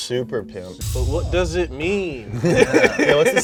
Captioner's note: drum beats; all laughing